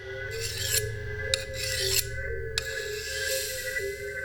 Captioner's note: blade scraping